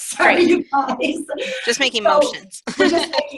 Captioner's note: laughing